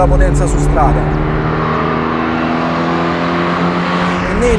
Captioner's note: car in speed coming